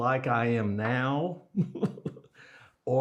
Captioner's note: laughs